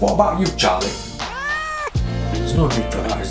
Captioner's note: cat meows